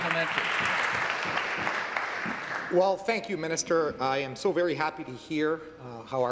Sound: applause

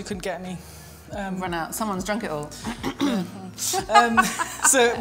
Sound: clears throat

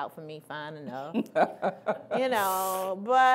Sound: laughing

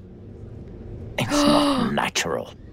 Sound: gasps

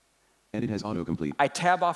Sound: computer Voice

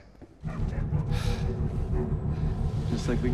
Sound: ominous music; dog barking

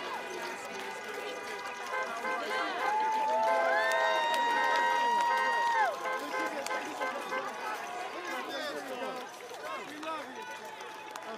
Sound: cheering and applauding

